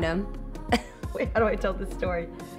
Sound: laughs

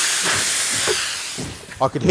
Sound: hissing

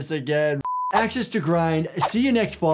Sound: beep

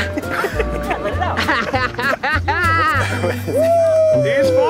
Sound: laughing

